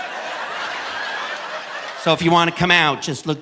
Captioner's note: audience laughing